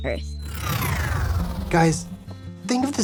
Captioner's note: electricity whirring